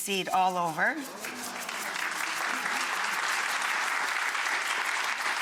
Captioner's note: audience applause